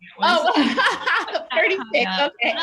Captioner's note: laughs